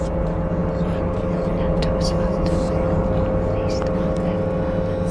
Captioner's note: intense Celtic whispers